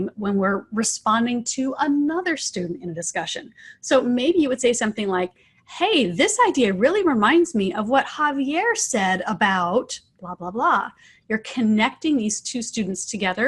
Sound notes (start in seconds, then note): none